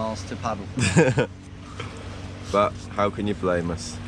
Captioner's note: laughing